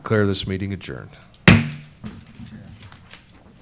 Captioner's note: bangs gavel